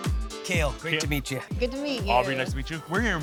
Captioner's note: speaking Hmong